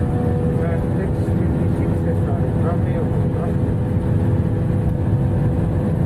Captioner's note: plane engine drowns out pilot